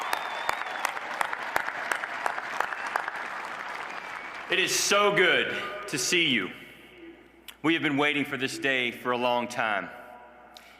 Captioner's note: applause